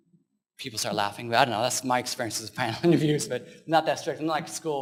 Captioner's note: laughs